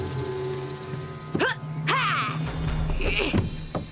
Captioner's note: Izzy Grunting